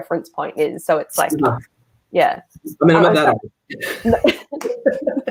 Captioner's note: all laugh